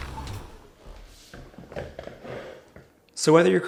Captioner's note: chair sliding across floor